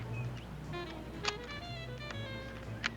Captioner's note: shutter clicks